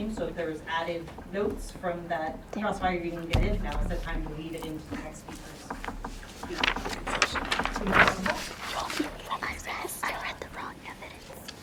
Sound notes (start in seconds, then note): 6.5 papers rustle; 6.5 students whisper; 11.3 students whisper